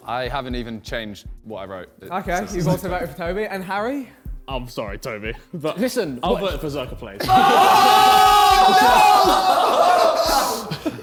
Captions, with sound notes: - I haven't even changed what I wrote. - Okay, you both have voted for Tobi, and Harry? - I'm sorry, Tobi but- - Listen. - I voted for ZerkaaPlays. (men exclaiming)